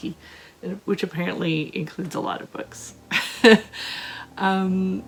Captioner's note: laughter